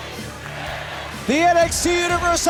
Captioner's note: fans chanting